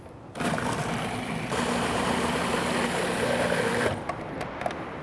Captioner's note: food processor whirs